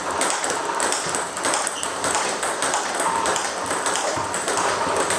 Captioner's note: ball ping pong hitting continues